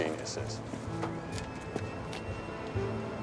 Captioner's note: footstep